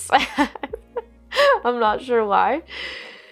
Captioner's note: laughs